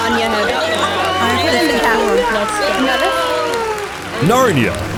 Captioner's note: cheering